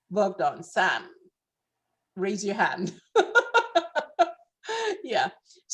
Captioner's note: laughs